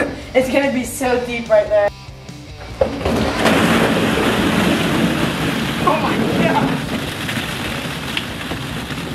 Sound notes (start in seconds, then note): 0.0 laughs; 2.5 balls crashing